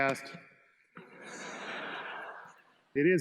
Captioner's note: students laugh